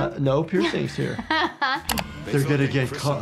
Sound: laughing

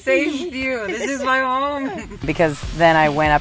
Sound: laughs

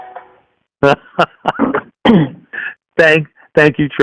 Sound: laughs

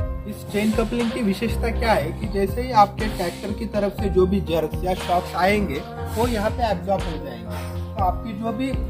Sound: shocks

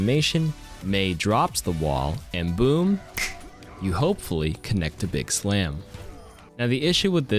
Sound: snap

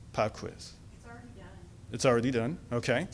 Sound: voiceover

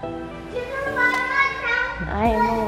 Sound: children talking

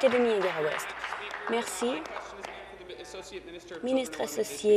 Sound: applause

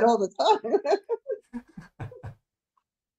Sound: laughs

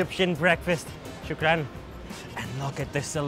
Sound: speaking in foreign language

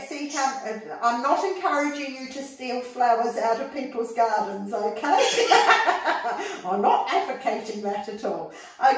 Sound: laughing

